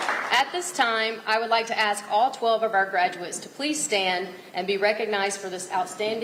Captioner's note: applause